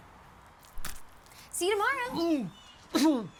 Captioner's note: ear squishing; bucky gagging